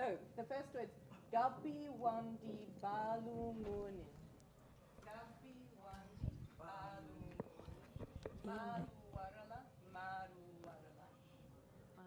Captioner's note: speaks foreign language